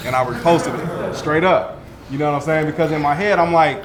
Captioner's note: group laughs